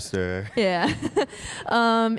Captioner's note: laughs